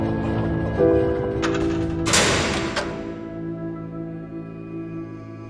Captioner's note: gate thudding; gentle music